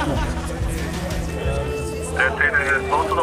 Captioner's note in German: Stimmengewirr